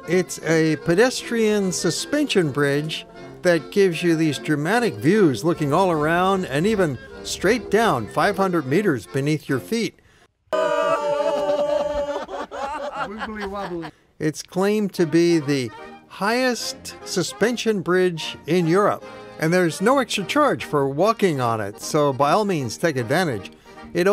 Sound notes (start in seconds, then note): 10.9 laughter